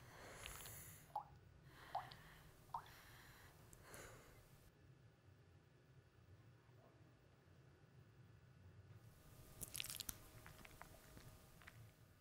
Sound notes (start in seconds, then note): 1.8 liquid dripping; 9.4 fruit squishing